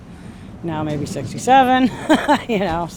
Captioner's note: laughter